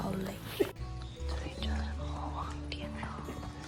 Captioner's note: whisper